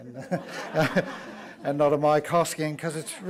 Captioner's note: laughter